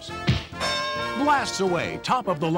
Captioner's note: glove punches; bell rings